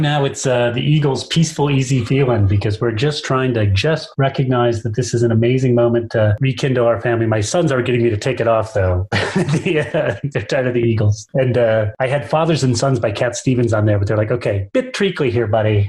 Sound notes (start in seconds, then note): 8.8 laughs